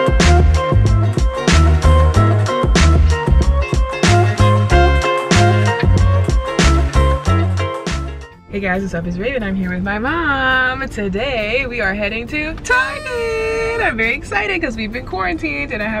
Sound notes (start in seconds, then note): 13.0 horn honking